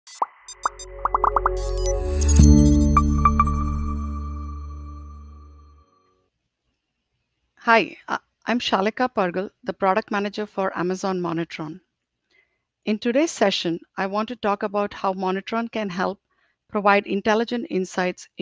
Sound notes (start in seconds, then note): 0.0 icons popping and beeping; 0.2 bright ambient music; 2.1 icons whooshing and chiming